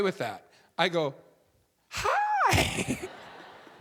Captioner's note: audience laughing